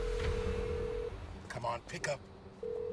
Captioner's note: line ringing